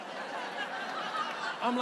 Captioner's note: audience laughing